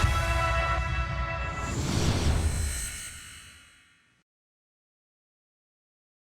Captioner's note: inspiring music; science fiction electrical surge